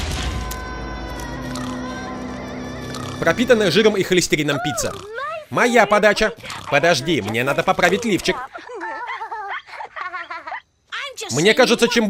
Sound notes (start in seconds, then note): 1.4 middle Eastern music playing, snoring; 4.4 on TV; 9.0 girls giggling